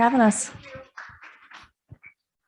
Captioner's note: audience applauds